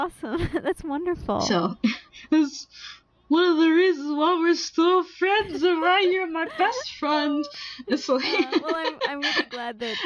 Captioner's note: laughing